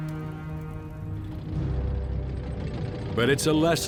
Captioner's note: tank engine whirring